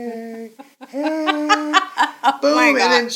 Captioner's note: laughing